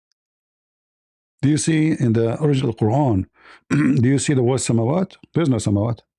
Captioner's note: clears throat